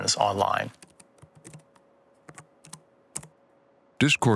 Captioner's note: typing, clicking